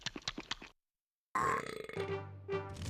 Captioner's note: belching